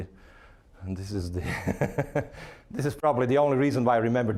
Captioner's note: laughing